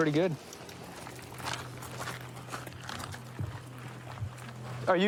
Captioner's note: footsteps crunching